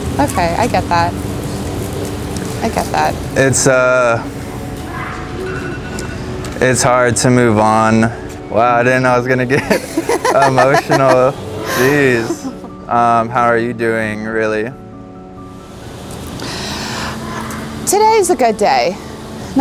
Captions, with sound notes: - Okay. I get that. I get that. - It's hard to move on. Wow. I didn't know I was gonna get (laughs) emotional. Geez. How are you doing really? (soft music) - Today is a good day.